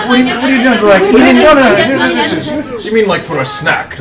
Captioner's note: sounds of protest